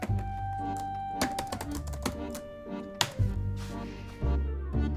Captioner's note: typing